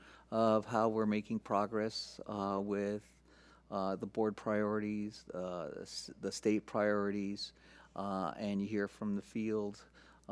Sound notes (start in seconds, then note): none